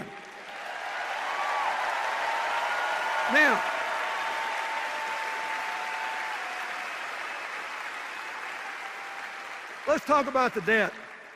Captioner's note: sustained cheers and applause